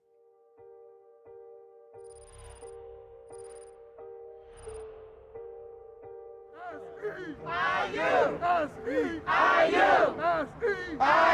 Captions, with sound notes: (gentle music) - [Crowd] SEIU, SEIU! SEIU, SEIU!